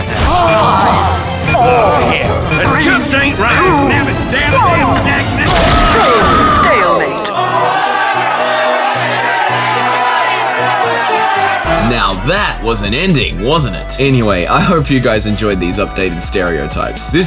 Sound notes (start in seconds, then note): 0.0 both emit painful moans; 3.2 whimper; 5.4 bone crunching, Engineer screams